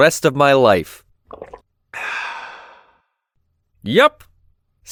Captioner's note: taking a loud drink